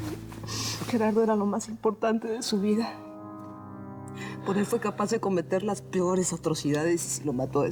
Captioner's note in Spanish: sollozos